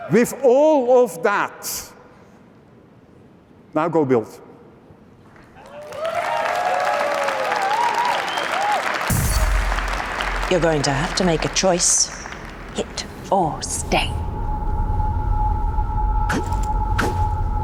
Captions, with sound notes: With all of that, now, go build. [cheering/applause] You're going to have to make a choice. Hit or stay.